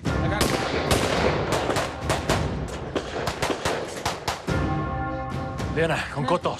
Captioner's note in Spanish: Disparos